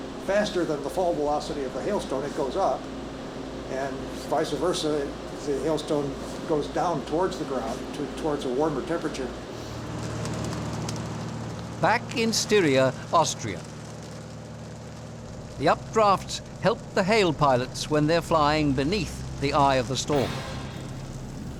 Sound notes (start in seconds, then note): 0.0 stutters; 9.7 plane rattling